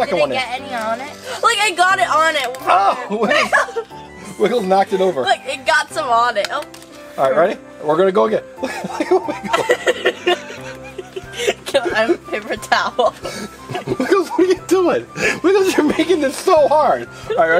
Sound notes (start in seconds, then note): 8.6 both laugh